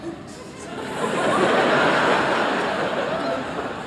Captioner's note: laughter